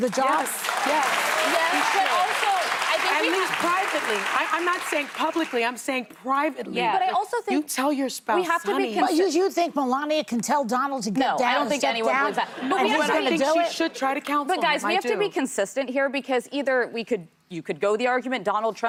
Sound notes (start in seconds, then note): 4.8 applause